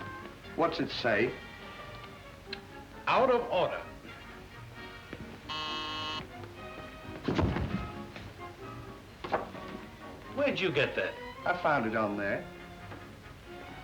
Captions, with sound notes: - What's it say? - "Out of order." (bell buzzing) Where'd you get that? - I found it on there.